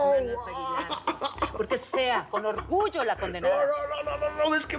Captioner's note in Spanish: risas; quejidos